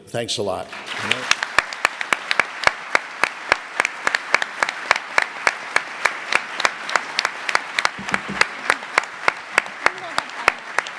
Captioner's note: audience applause